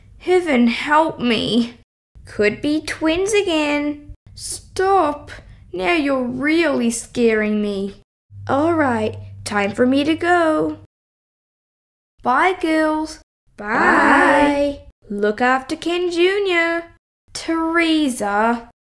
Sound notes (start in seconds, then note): none